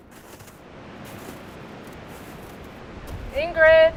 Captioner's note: wind humming